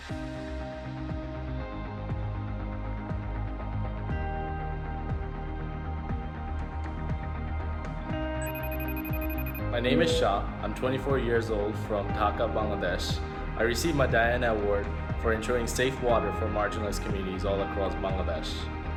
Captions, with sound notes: (uplifting music) (phone rings) - My name is Shah, I'm 24 years old from Dhaka, Bangladesh. I received my Diana Award for ensuring safe water for marginalized communities all across Bangladesh.